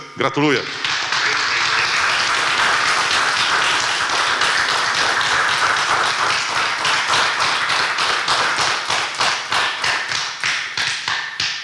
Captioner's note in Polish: oklaski